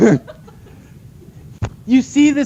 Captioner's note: laughter